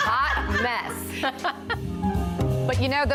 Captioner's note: laughter; jazz music